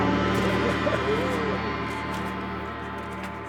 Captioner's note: gong